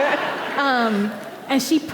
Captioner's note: audience laughing